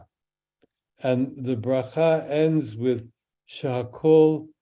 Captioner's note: speaks in Hebrew